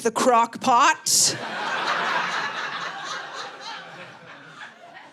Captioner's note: audience laughing